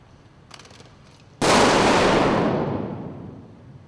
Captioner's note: gunfire